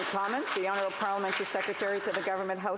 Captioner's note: applause